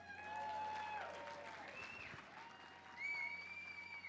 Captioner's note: crowd cheers